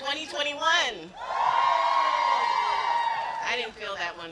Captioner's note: yelling